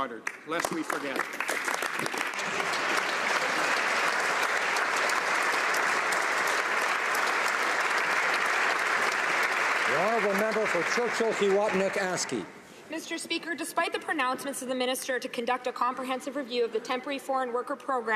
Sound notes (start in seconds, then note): 9.1 some Applause